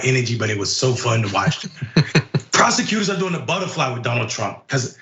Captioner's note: laugh